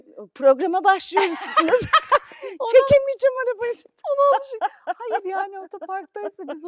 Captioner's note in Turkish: kahkaha